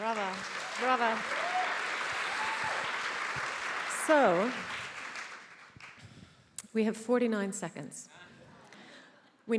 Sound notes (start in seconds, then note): 1.8 attendees applauding